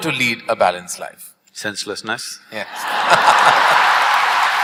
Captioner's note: laughter/Applause